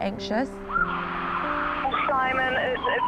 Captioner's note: sirens